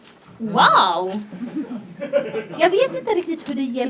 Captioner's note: laughter